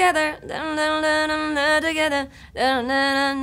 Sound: humming

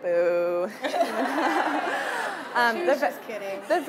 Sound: audience laughing

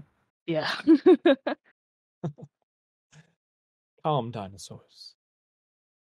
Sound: laughs

